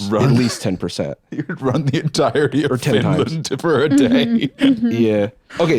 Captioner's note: laughing